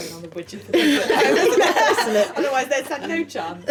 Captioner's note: laughing